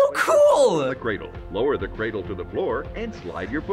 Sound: voice-over

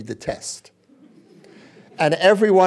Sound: laughter

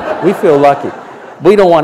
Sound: laughter

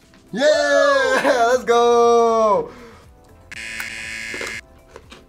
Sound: buzzer rings

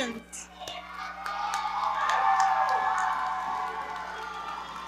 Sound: audience cheering

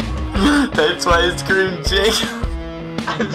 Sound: laughs

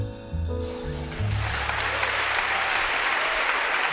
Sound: applause

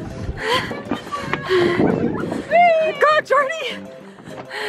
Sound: fast panting; fast panting

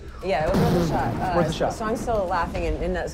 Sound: boom

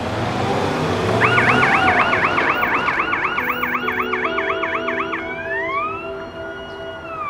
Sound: police car siren

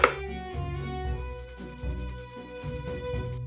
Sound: grating

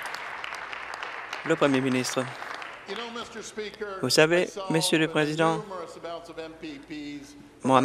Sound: applause

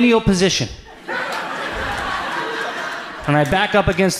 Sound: audience laughs

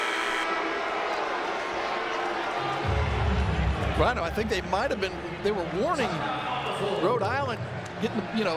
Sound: buzzer

